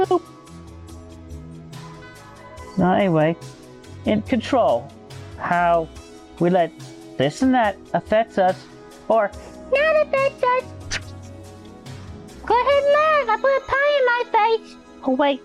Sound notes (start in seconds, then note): 10.8 slaps face